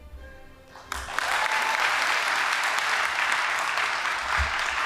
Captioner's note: audience applauding